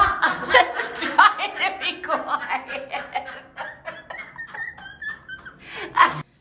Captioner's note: laughs; laughs hard